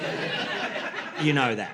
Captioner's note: laughter